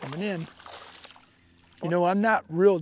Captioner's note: splash